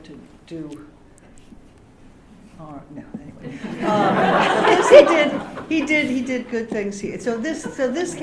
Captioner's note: laughter